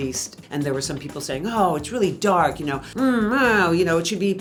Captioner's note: grousing